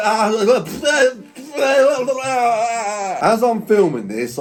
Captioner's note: spluttering